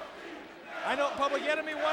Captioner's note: crowd cheering